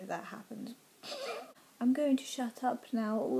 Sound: laughs

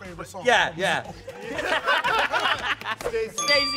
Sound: laughing

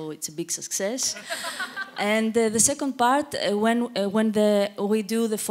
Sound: audience laughter

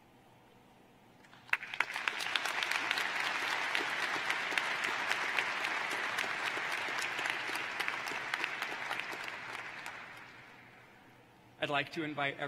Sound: applause

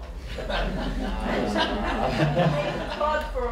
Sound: laughter

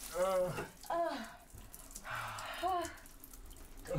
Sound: water stops

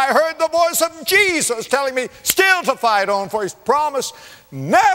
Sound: clap

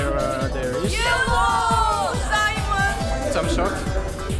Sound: Russian accent

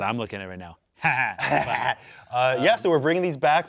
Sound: laugh

